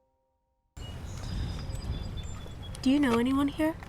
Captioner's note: birds chirping